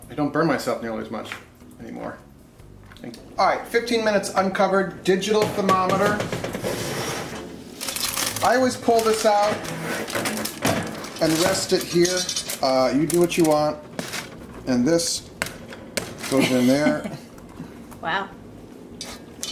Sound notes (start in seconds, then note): 16.3 laughs